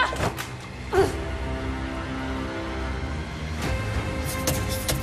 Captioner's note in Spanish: Golpes